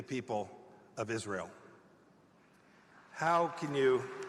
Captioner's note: applause